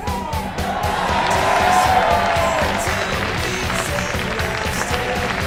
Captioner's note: audience cheering